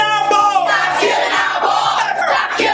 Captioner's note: crowd